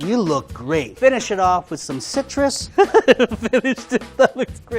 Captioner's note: laughs